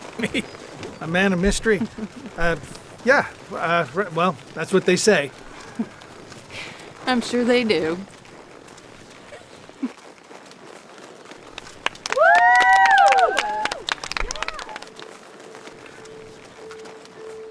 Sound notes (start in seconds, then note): 0.0 chuckles; 11.4 girls applauding; 12.0 girls cheering